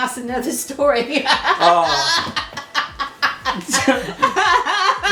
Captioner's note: both laughing